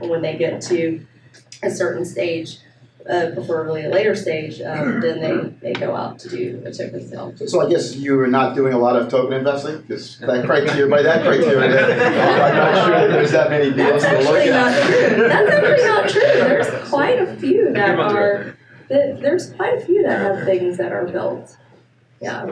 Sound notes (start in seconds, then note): 11.8 laughing